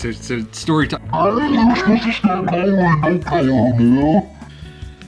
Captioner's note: growling angrily